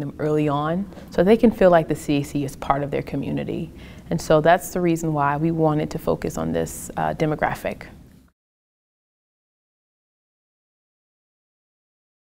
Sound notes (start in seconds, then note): 8.6 silence